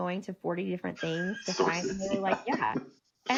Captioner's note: laughs